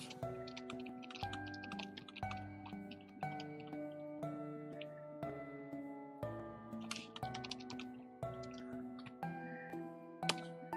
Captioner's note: typing